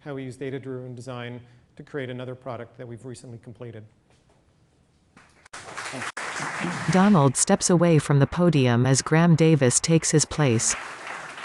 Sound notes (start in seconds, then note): 5.4 applause